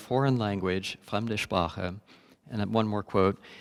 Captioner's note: speaking german